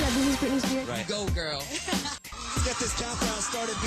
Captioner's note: chuckles